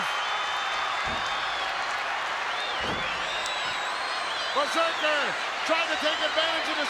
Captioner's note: applause